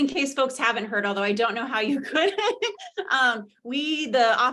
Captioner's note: laughs